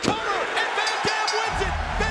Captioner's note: audience cheering and clapping